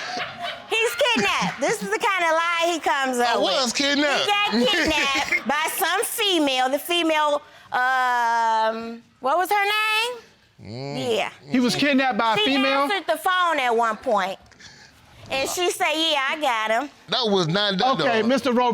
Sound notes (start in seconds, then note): 4.2 chuckles